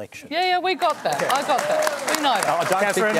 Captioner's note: applause